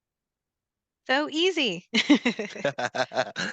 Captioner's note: laughs